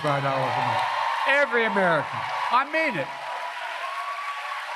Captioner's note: applause